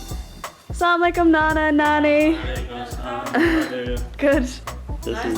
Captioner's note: speaking foreign language